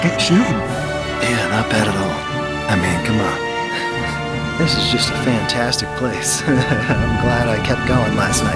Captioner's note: laugh